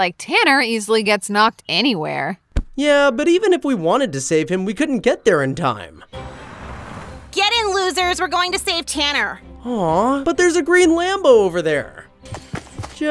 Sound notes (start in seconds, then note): 6.1 car engine revving